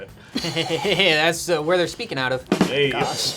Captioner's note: laughs; rimshot echoes